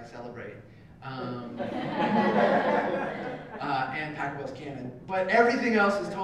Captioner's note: laugh